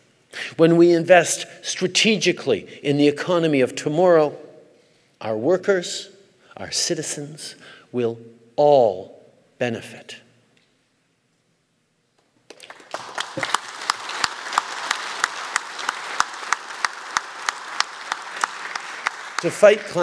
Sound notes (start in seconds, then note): 12.4 applause